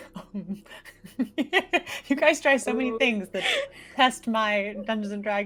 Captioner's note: laughing